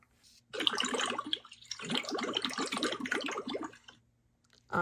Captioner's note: water churns